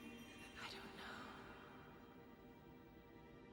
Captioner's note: whispers